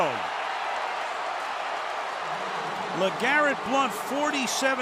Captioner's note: cheering